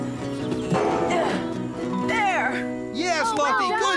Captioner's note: thud!